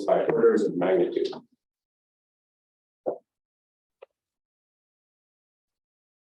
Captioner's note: silence